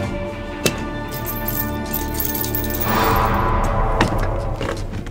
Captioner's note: chains rattling